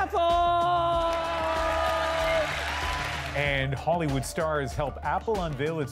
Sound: applause

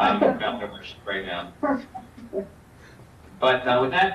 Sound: chuckles

